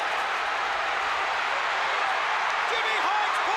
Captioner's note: crowd cheering